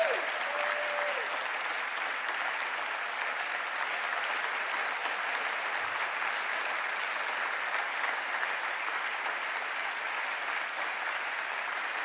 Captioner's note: cheering and applause